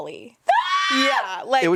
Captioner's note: screams